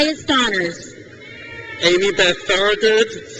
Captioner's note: crowd cheers